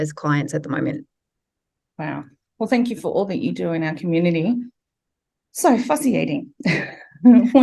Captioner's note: laughs